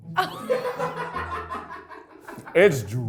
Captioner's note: crew laughs